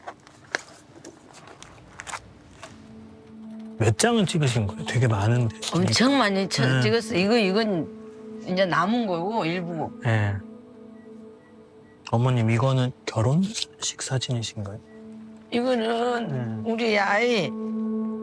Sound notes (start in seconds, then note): 4.5 speaking Korean